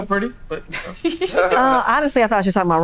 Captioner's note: all laughing